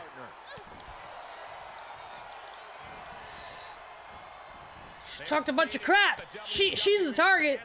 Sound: applause

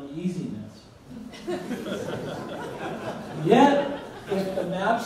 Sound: audience laughs

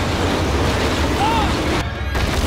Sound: screaming

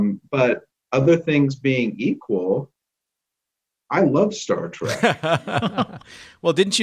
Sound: laughter

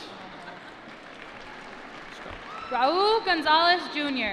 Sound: applause

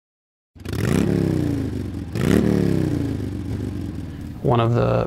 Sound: motorcycles vrooming

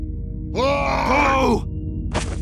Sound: Sad Heavy cried and Angry Medic booing

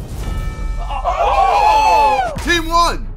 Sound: sidemen exclaiming

